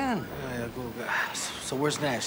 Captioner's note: mutters